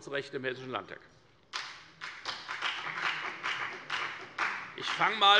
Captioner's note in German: Beifall bei der FDP